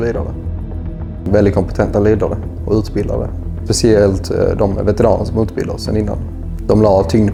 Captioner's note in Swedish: Swedish